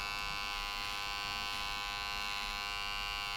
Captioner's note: razor buzzing